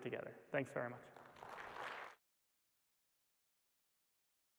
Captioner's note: applause